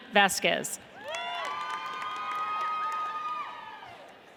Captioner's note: audience cheers